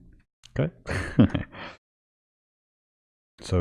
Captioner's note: giggles